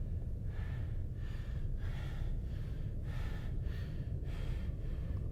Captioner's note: heavy breathing